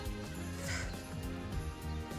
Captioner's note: sighs